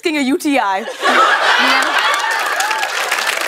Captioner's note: laughter